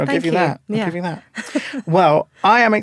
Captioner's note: laughing